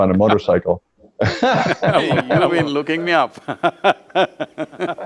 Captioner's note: laughs